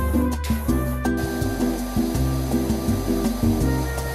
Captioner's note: bright music; powerwasher hissing